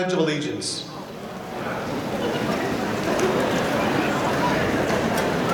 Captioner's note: audience chattering